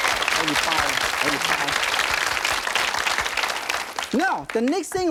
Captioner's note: audience applauding; speaking in foreign language